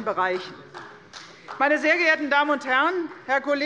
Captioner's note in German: Beifall bei der CDU